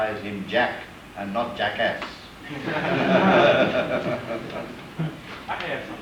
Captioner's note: laughter